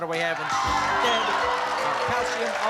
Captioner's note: cheering